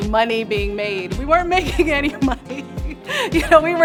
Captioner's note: laughs